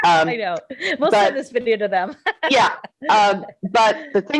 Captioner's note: laughing